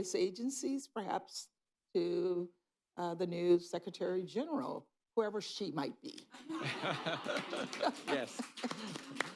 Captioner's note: laughter